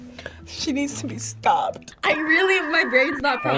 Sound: dial up internet tone

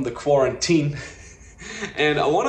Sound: laughing

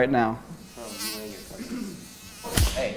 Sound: fly buzzing; smack

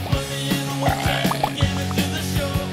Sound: belches

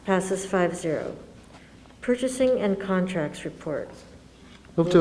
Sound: none

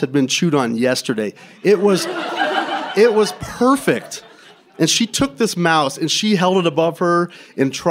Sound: laughter

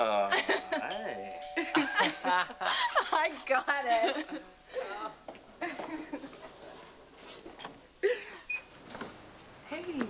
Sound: doorbell rings

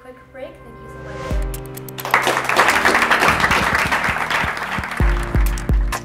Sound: applause

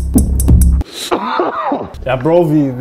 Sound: cough

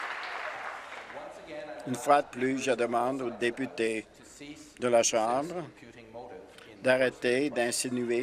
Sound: applause

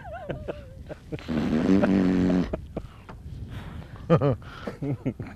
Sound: laughter

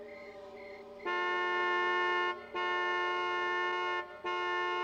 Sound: honking

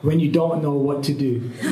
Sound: laughter

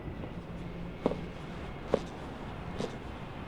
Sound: footsteps Approaching

